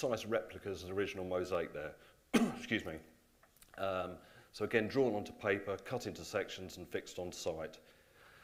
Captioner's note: cough